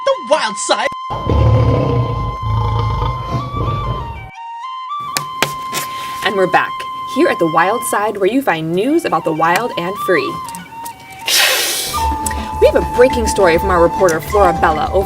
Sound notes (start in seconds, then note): 0.0 flute music playing; 1.1 sound of tiger growl; 11.2 making sound of cat hissing